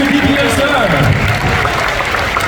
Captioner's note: applause